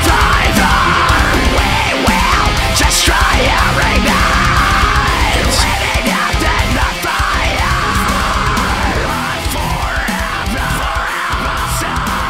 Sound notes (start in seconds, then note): 8.3 fire